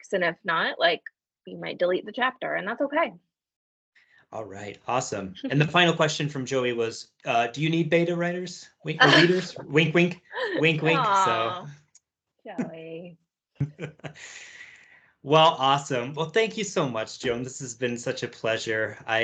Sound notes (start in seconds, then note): 13.6 laughs